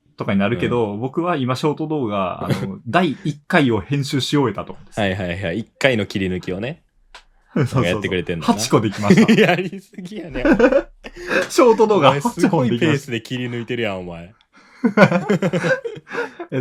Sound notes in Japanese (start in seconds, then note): 10.2 笑い